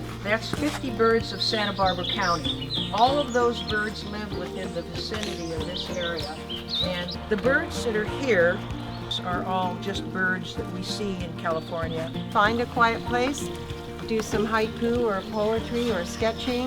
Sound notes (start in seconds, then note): 3.0 birds chirping